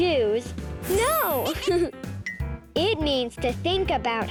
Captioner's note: giggles